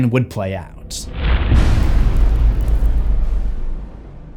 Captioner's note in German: impact